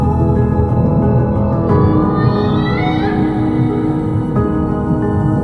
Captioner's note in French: Chant de rorqual